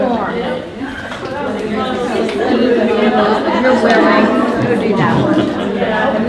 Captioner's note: participants talking at once